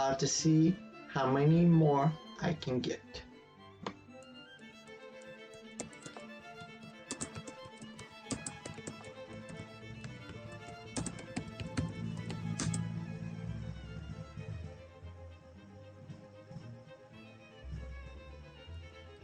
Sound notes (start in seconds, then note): 3.7 tapping of keyboard as string music continues in background; 3.8 click sound